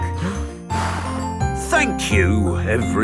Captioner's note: blows